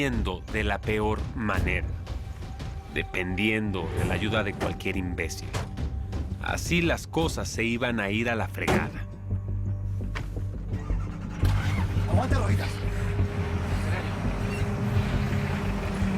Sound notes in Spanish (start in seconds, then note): 10.7 Motor arranca